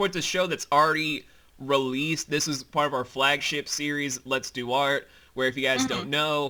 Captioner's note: collective laughter